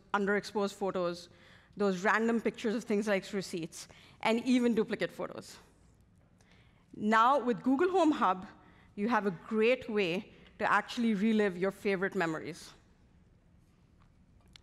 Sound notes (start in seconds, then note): none